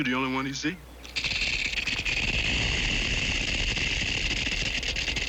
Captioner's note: rattling